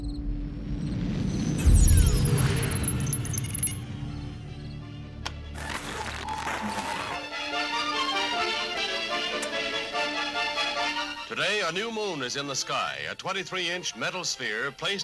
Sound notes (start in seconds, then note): 5.1 light switch sound; 5.9 static noise; 7.5 instrumental music